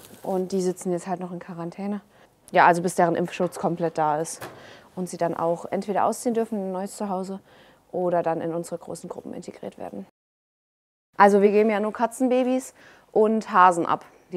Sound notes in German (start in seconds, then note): none